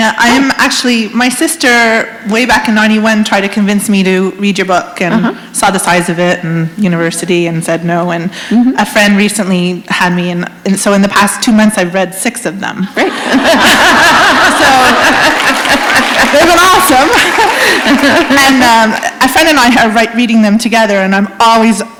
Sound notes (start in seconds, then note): 13.0 laughter; 14.2 applause